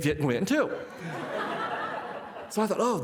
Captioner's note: participants laughing